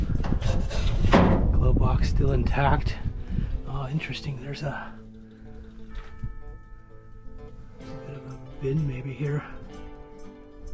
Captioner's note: door